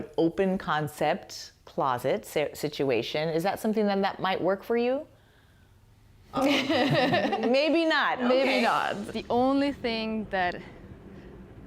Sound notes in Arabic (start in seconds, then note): 6.4 الجميع يضحك